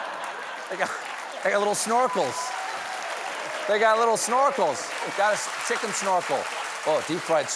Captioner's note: laughter